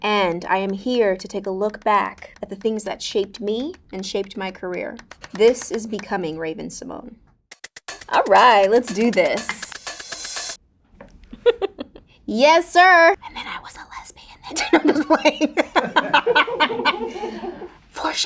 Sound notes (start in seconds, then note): 9.3 upbeat music; 11.3 Raven-Symone laughing; 14.7 Raven-Symone laughing